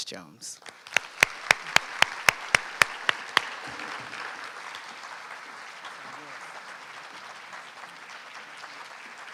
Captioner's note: applause